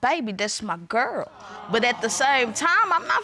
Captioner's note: audience awes